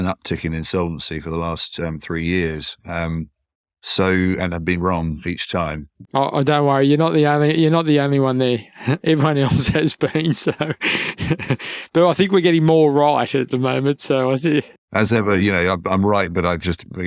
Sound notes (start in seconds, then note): 8.6 laughs